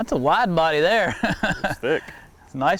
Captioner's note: laughs